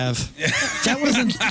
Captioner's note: laughing